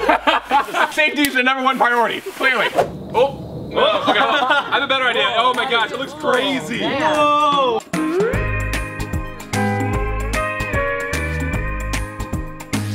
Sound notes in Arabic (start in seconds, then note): 0.0 يضحك; 3.7 الجميع يضحك